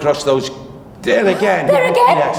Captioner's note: gasps